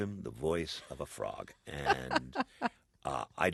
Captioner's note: soundbite of laughter